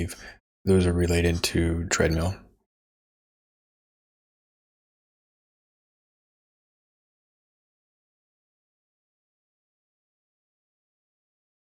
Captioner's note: silence